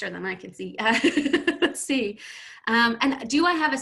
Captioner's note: laughing